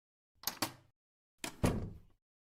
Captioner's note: door opens and closes